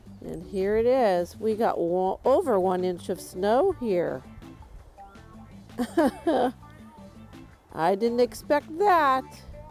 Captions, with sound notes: And here it is, we got over one inch of snow here. [laughs] I didn't expect that.